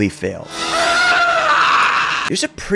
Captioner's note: screaming